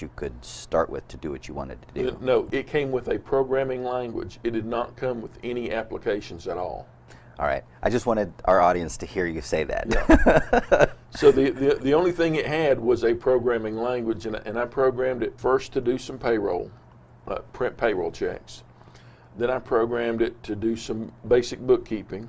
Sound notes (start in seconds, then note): 10.0 laughs